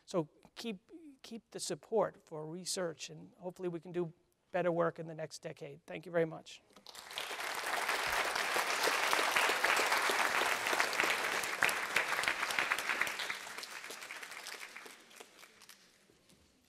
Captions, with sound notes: So keep the support for research. And hopefully, we can do better work in the next decade. Thank you very much. [APPLAUSE]